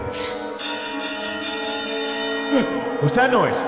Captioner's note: bell sounds